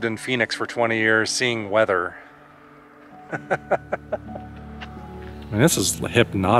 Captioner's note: laughter